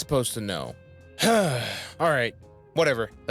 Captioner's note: sigh